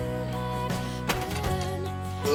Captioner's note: door clicks